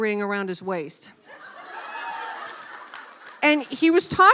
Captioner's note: laughing